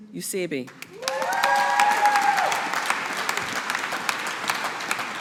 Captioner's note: audience applauding